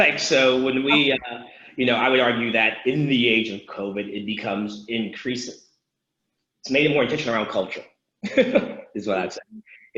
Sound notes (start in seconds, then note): 8.6 laughs